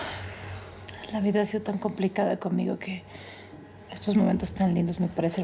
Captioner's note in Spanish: ella exhala